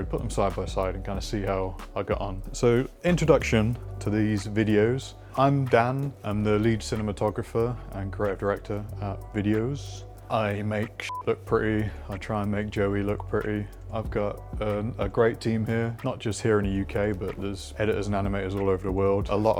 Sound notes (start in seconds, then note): 11.0 beep